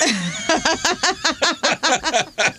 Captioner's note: laughter